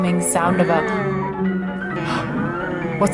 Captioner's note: goats bleating